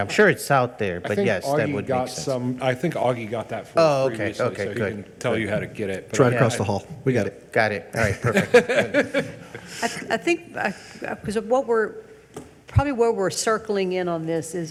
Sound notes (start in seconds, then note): 8.0 both laugh